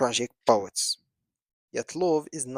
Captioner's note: pause